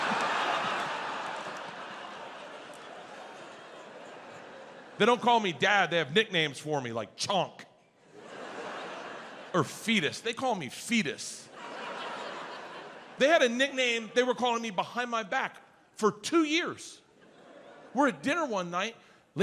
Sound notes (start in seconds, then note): 0.0 audience laughs; 11.2 audience laughs